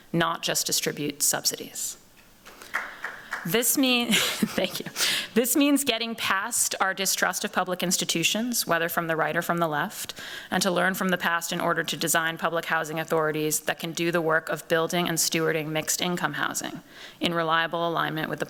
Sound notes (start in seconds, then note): 2.5 applause; 4.0 chuckles